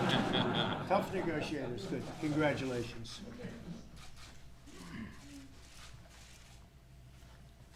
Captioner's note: laughter